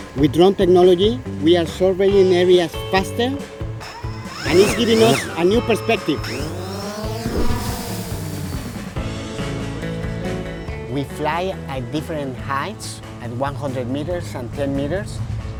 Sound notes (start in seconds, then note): 6.7 drone whirring